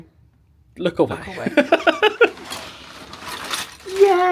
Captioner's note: laughs